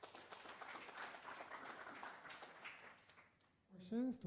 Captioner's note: applause